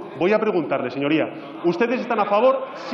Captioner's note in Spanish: Rumores.-Aplausos